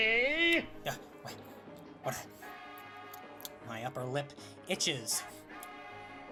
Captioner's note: licks lips